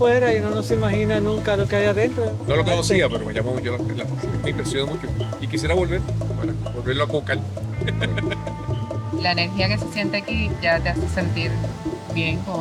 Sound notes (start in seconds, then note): 7.7 laughter